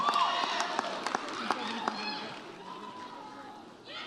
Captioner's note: audience cheers